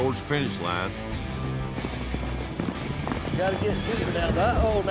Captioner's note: hoofbeats